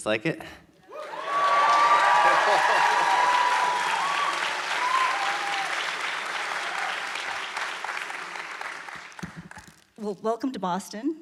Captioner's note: audience applause